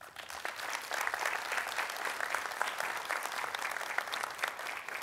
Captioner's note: applause